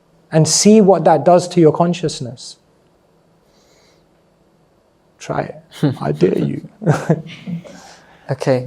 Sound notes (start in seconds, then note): 5.7 laughs